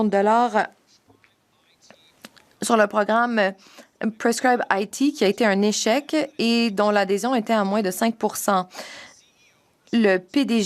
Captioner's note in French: voix de l'interprète